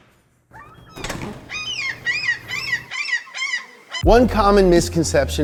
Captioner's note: seagull caws